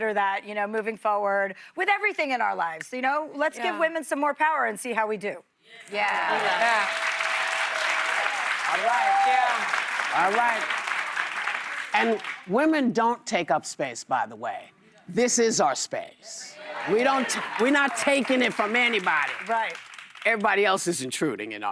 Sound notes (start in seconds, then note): 10.1 applause